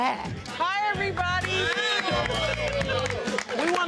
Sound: audience cheers

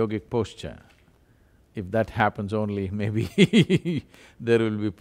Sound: laughs

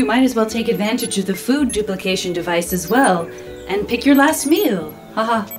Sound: laughs

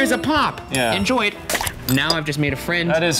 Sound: bottle pops open

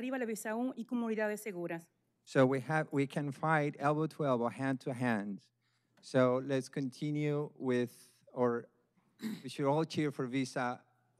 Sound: speaking spanish

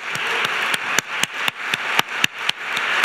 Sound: applause

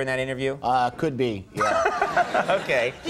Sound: Conan laughing

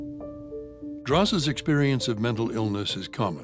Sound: light piano music; voiceover

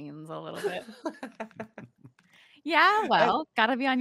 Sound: laughing

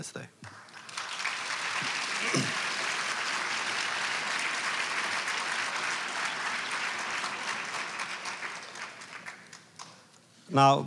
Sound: applause

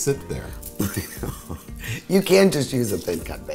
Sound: laughs

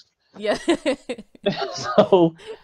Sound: laughs

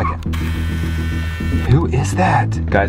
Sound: buzzing

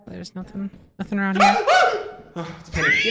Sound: screams

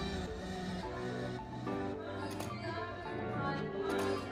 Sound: smooth electronic music; camera clicking

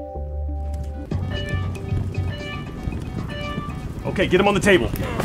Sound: hospital alarm of someone not covering the spread

